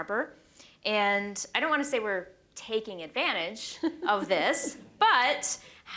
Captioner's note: chuckles